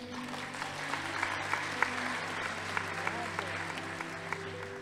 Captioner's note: audience applauding